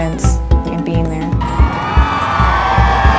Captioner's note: cheering